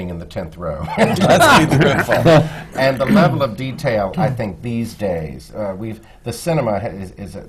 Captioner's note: laughter